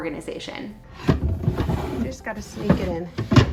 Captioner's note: organizer thumping